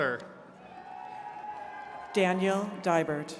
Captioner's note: attendees cheering